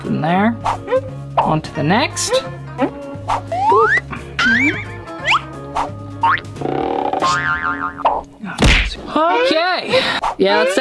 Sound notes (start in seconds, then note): 3.6 beep; 4.9 upbeat music; 8.6 thud